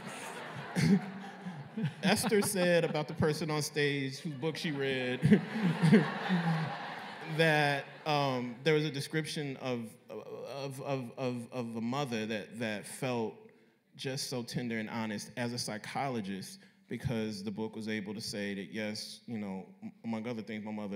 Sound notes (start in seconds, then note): 0.1 laughter; 6.3 laughter